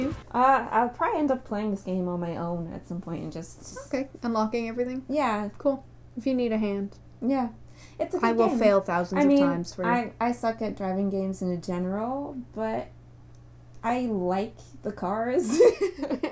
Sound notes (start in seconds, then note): 15.4 laughter